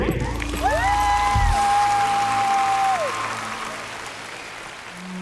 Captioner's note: cheers and applause